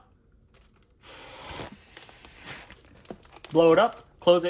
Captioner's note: blowing